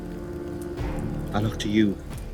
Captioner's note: dramatic music; fire crackling